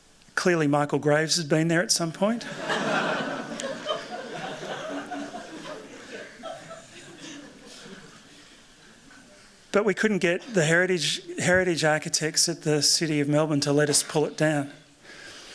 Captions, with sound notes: Clearly, Michael Graves had been there at some point. [LAUGHTER] But we couldn't get the heritage architects at the city of Melbourne to let us pull it down.